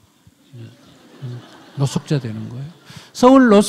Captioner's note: audience laughs